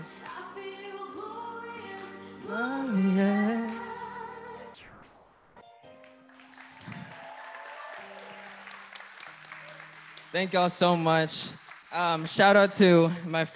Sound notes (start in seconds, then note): 6.0 applause